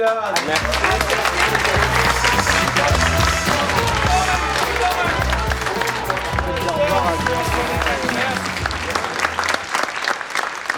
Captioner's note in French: aplaudissement